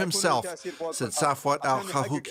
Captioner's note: foreign language